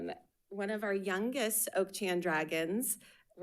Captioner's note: none